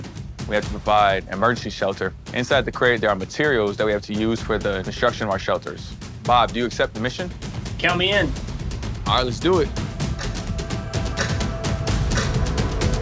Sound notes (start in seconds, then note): 9.8 countdown ticking